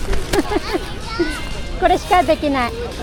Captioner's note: laughter